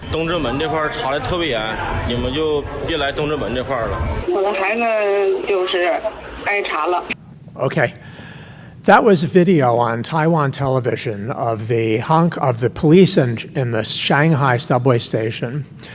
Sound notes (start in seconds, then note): 0.1 man speaking in foreign language; 4.3 woman speaking in foreign language